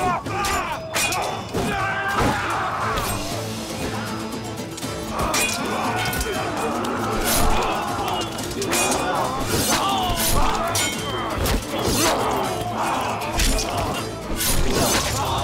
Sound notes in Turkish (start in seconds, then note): 0.1 Aksiyon müziği; 8.6 İnliyor